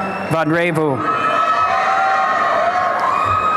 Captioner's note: applause and cheering